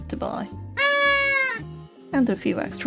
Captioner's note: obnoxious party horn